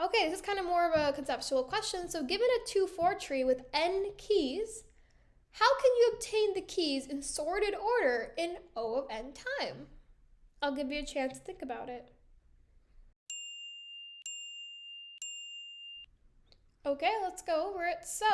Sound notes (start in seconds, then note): 13.2 chiming